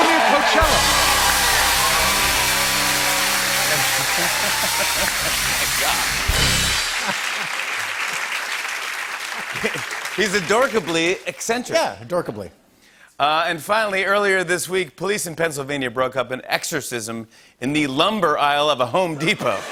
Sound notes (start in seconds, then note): 0.2 cheers and applause; 4.1 laughs